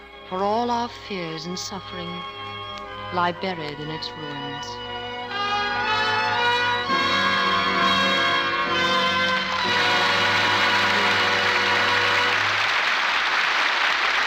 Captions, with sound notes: for all our fears and suffering lie buried in its wounds. (Horns blare) (Applause)